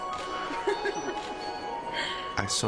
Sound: both laughing

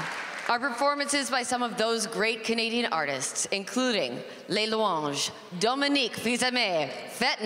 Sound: applause

